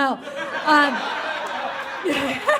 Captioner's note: audience laughs